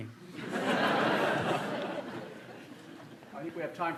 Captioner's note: laughter